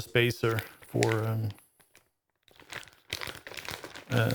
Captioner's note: plastic Crinkling